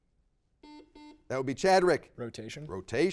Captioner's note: buzzer beeps